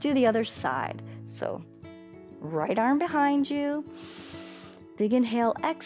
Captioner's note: inhales